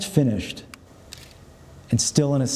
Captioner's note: camera clicks